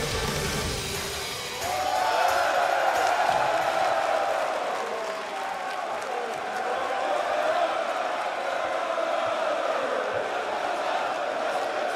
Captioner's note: crowd cheering